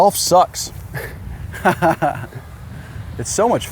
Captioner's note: laughs